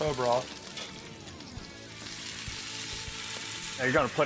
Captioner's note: pan sizzling